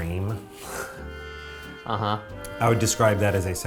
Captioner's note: laughs